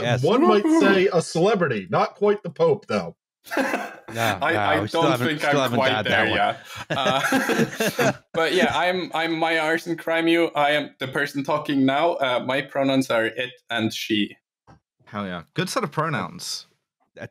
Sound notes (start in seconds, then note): 6.2 laughs